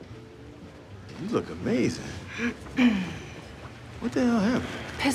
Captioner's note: clears throat